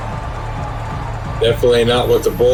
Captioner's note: crowd Noises